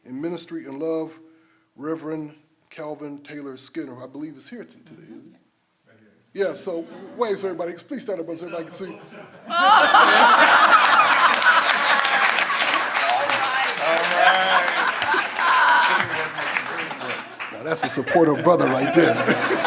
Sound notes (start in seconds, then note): 9.2 speaking off-mic; 10.0 everyone applauds and laughs; 14.9 everyone applauds and laughs